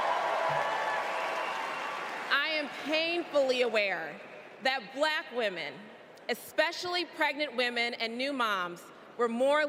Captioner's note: cheers and applause